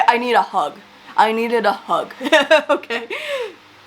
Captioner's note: laughs